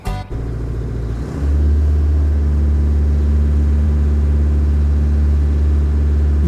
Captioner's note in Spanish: motor de grúa